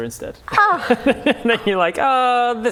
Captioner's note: laughs